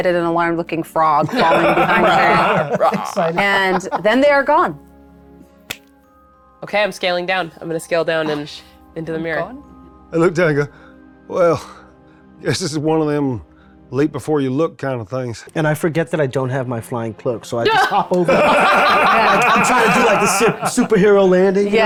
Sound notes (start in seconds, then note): 17.6 everyone laughing